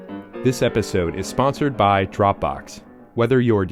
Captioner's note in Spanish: Voz en off